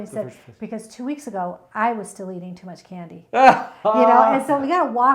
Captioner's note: laughs